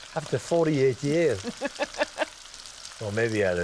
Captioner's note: laughs